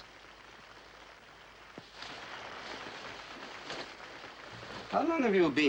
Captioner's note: audience applauds